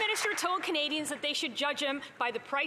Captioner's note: some Applause